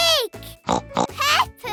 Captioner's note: oinking